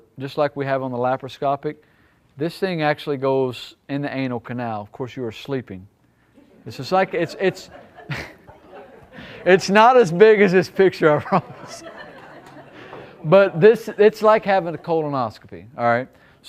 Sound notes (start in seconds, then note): 6.6 audience laughing; 8.2 laughs